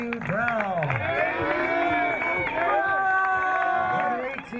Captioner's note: crowd cheering